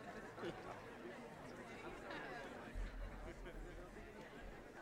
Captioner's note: attendees chattering